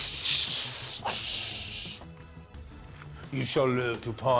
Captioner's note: imitates rocket